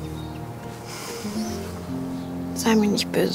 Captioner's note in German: Seufzen